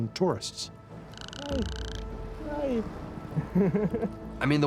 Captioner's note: whale clicking; laughs